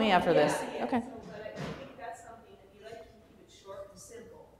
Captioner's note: voiceover